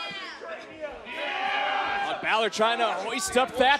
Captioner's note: crowd chatter